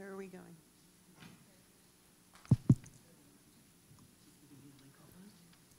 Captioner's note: mic noise